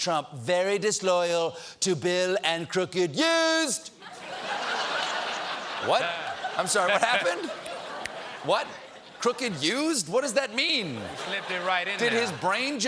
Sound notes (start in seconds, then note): 6.7 laughter